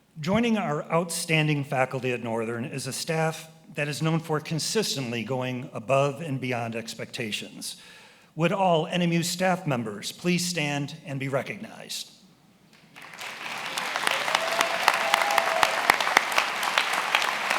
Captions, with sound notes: Joining our outstanding faculty at Northern is a staff that is known for consistently going above and beyond expectations. Would all NMU staff members please stand and be recognized? (attendees applauding and cheering)